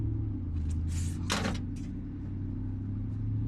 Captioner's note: whispering